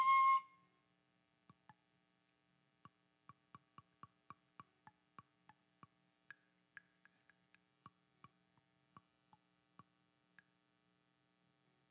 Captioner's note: flute music; tapping on flute